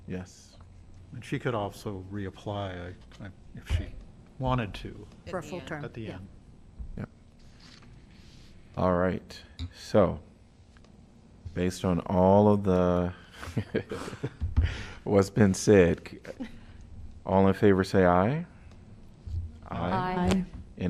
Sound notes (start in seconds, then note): 13.3 laughter